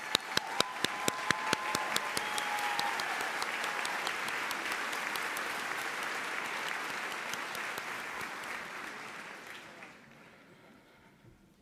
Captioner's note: applause